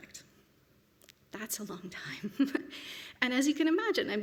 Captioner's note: chuckles